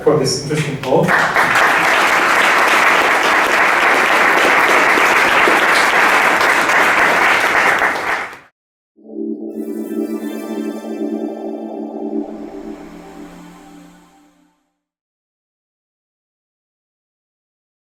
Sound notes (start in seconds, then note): 0.5 applause